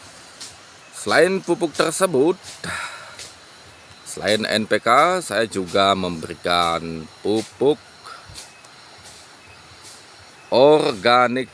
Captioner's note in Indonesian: menghela napas